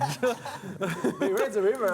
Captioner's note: laughter